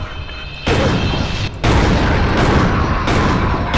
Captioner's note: gradual explosion, crazed laughter